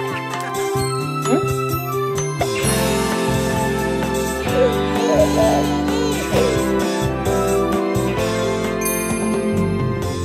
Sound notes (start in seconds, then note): 4.6 crying